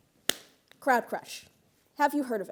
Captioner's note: clapping